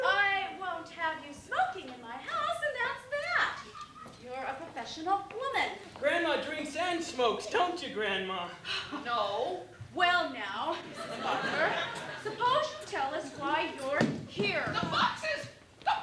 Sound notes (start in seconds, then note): 10.8 laughter